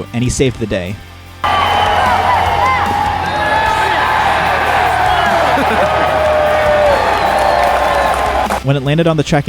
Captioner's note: crowd cheering